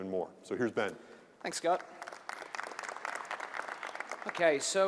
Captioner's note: applause